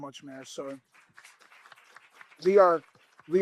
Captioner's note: applause